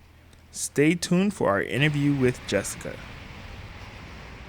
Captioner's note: water rushing